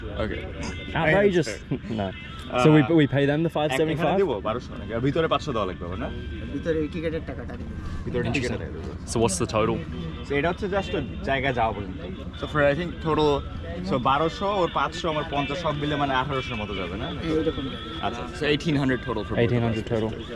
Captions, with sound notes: Okay. I just, you know, so we, but we pay them the 575. [speaking local language] 1800 total. 1800 total.